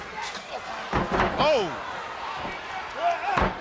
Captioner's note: body slamming